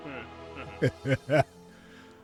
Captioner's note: laughing